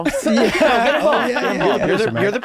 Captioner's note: laughter